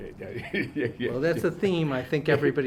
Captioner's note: laughs